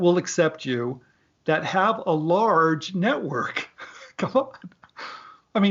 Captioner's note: laughs